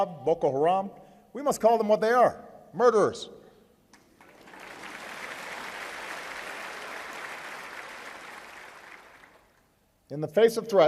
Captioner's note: applause